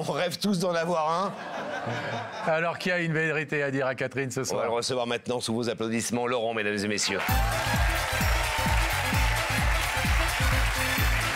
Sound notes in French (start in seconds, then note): 7.1 applaudissements